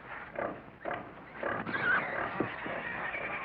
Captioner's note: pigs squeal